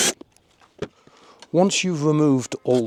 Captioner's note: drill